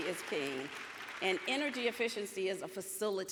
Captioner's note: audience applauds